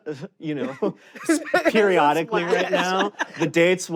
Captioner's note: laugh; chuckles